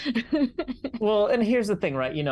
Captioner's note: laughs